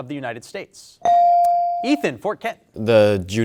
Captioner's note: bell dings